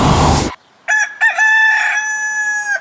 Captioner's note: rooster: sings